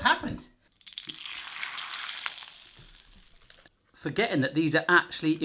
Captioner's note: crackling